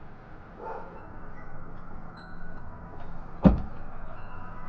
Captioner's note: dog barking